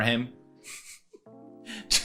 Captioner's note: quiet chuckle